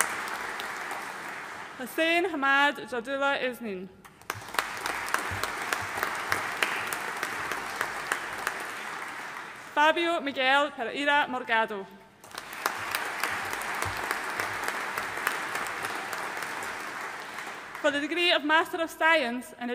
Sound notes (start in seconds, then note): 4.1 audience applauding; 12.2 audience applauding